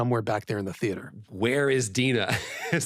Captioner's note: laughs